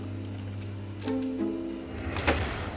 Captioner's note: thud